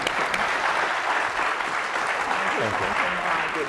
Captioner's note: applause